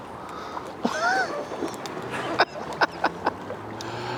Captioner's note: laughs